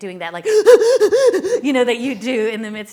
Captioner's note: heavy panting